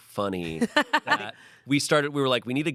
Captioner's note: laughs